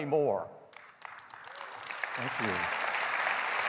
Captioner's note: applause